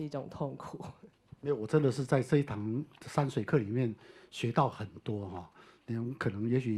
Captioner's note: Mandarin